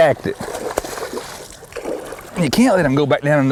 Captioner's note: splashing